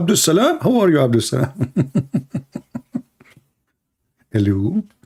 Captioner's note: Ketawa